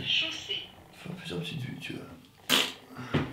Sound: fart noise

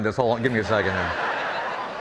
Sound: audience laughing

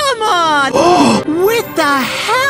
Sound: exaggerated G A S P

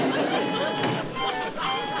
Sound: door closes

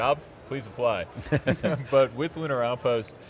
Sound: laughs

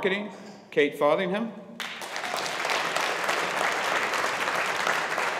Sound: audience applauding

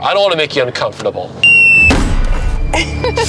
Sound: whistling; thudding; laughing

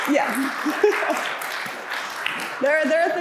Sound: laughing

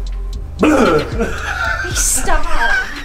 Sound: laughs

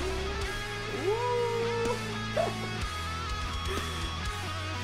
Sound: laughs

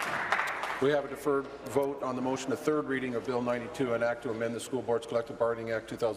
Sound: applause

